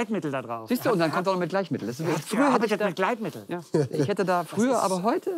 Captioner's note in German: Stimmengewirr